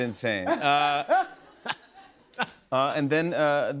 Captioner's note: laughter